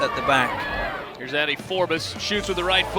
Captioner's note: voiceover